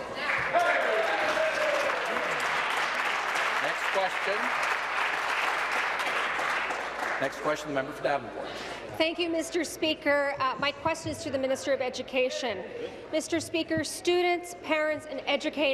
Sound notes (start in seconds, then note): 7.1 applause